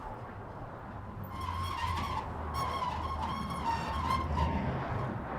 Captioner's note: wheelbarrow squeaking